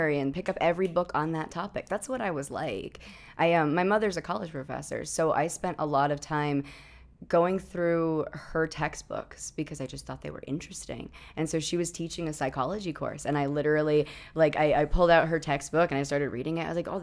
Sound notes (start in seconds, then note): none